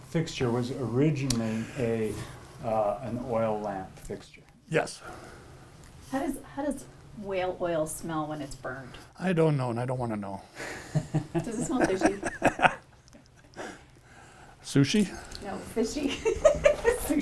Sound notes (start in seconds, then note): 10.7 laughs; 16.0 laughs